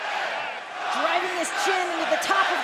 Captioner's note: crowd cheering